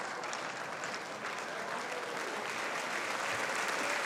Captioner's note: applause